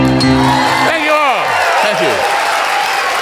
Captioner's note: crowd cheering